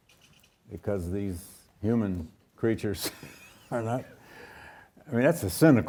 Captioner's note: chuckles